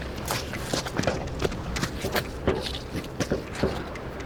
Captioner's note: wind blowing; hood clicks